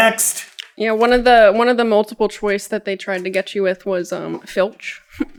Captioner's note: chuckles